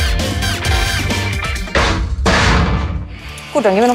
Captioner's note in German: Musik endet, Tür scheppert